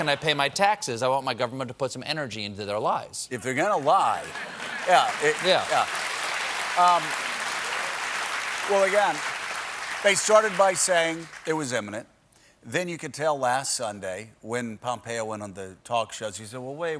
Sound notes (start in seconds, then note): 11.7 applause